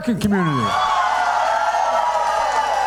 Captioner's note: cheering and applause